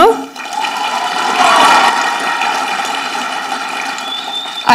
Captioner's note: audience clapping